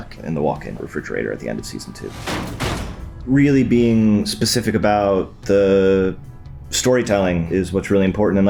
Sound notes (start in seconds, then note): 1.8 thuds